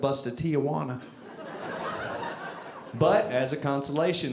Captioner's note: audience laughing